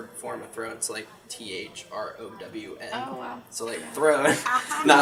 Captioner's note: laughter